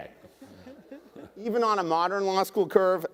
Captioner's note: attendees laughing